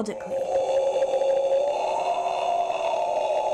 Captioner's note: guttural roar